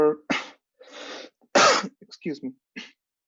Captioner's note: coughing